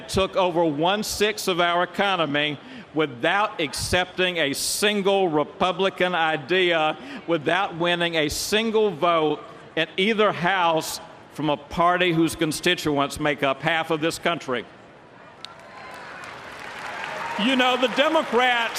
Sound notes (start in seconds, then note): 15.5 applause